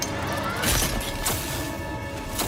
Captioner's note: rip V's glasses getting crushed sound